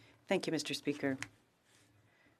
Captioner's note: speaking French